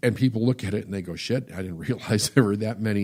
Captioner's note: laughs